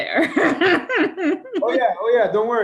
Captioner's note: laughing